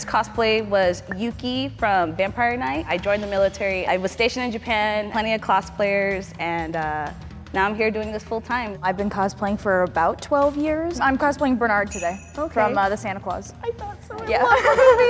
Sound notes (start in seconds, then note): 11.9 bells jingle